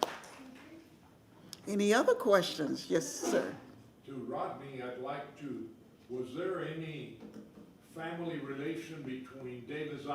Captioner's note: applause